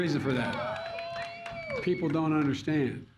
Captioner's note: applause